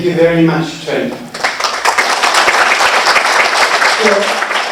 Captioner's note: applause